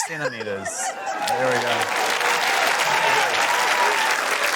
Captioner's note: cheering, applause